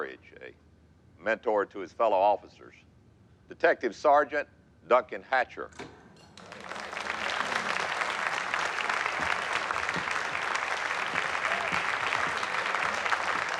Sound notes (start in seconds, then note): 6.4 cheers, applause